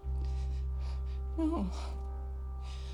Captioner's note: breathes shakily